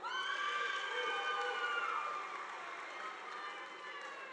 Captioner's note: audience applauding